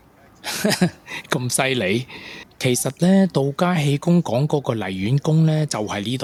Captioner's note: laughing